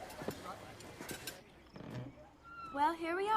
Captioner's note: door squeaks